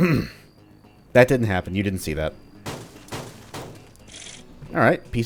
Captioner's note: clears throat; smash smash smash